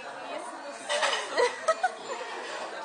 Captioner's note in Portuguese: Risos